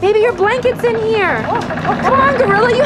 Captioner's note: creaks